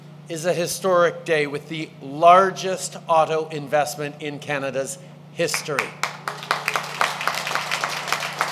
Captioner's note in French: Applaudissements